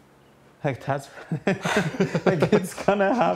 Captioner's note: laughing